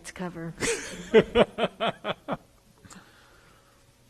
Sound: laughs

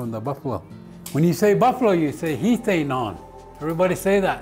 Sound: foreign language

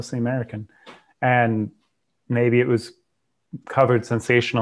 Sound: soft thud

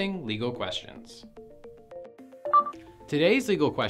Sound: gentle music; electronic beep

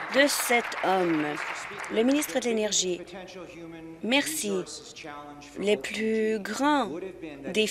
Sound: applause

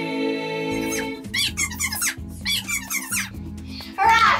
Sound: squealing

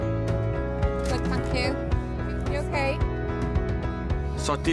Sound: market chatter between and customers

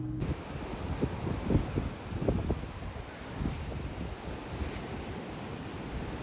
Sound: wind blowing; waves crashing

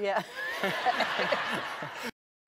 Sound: everyone laughs

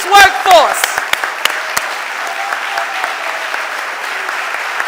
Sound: audience applauding

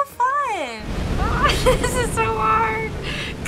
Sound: chuckles

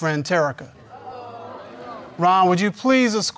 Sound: audience mumbles

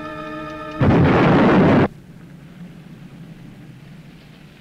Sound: explosion booming

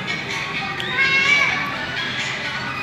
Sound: random kid screaming

